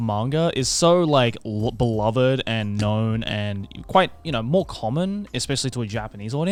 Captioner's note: none